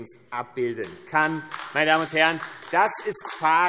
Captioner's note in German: Beifall AfD